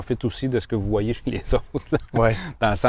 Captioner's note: laughter